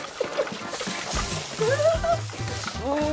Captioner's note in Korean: 쏴아아아아